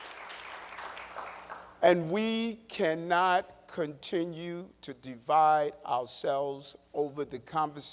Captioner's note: applause